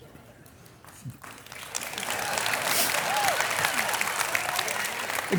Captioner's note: audience applauding